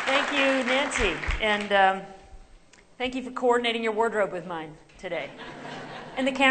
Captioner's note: laughter